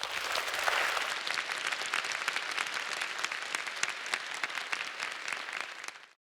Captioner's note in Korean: 박수